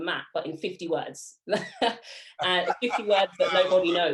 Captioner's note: both laughing